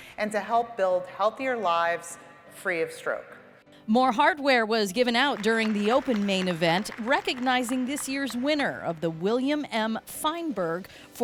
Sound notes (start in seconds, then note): 5.1 audience clapping